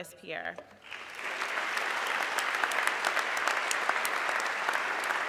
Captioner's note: audience clapping